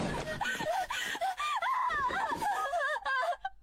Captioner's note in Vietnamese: khóc; tiếng cười